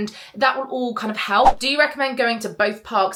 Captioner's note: screen fwipping